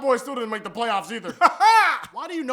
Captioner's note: weird laughing